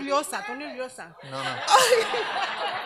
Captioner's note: woman speaks Spanish; audience laughs